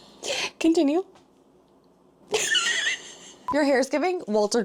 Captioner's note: laughs